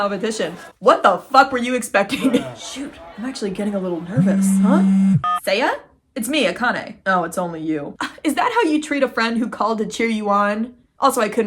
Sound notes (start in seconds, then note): 4.1 phone beep; 4.1 phone buzzes; 8.0 scoffs